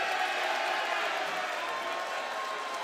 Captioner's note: cheers and applause